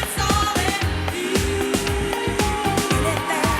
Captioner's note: audience cheers